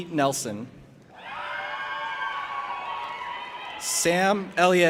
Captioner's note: audience applauding and cheering